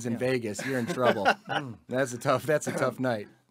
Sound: laughs

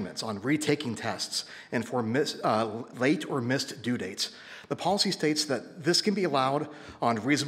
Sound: none

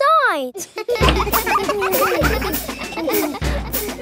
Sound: children laughing

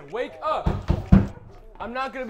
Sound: banging wall

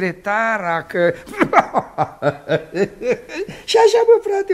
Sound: laughs

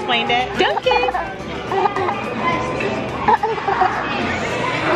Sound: laughing

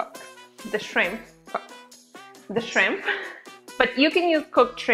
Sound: laughs

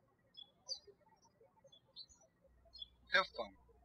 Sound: birds chirping

